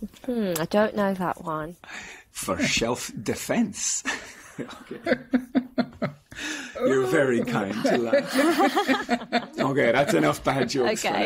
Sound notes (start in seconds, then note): 4.1 laughing; 8.6 all laughing